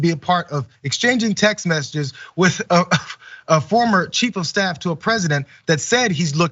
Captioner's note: laugh